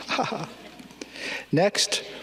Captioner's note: person laughing